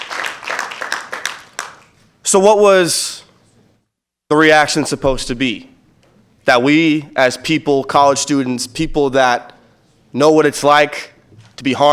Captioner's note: applause